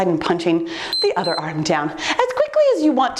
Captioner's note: timer beeps